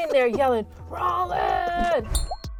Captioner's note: laughing